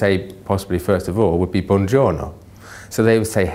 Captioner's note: speaking italian